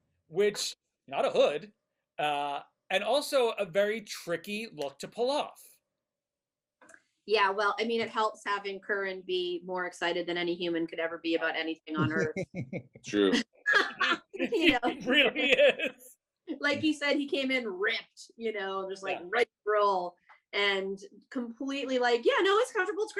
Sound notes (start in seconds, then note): 12.0 laughing; 14.3 everybody laughing